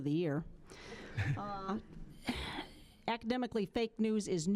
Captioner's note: scattered chuckling